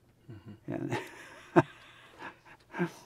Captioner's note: laughs